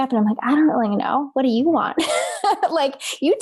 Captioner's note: laughs